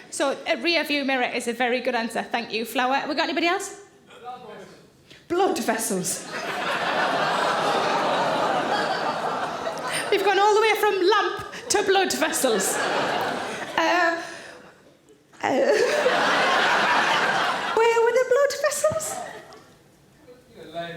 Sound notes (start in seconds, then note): 6.3 audience gasps and chuckles; 11.6 audience laughing